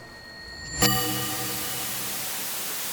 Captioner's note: white noise